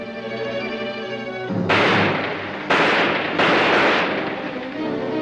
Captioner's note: gunshots; suspenseful music